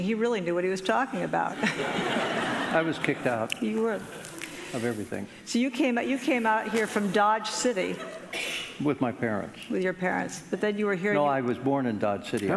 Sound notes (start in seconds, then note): 1.5 audience laughing